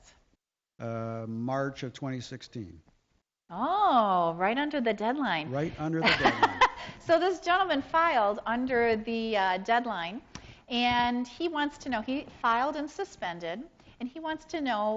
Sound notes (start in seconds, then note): 6.0 laughs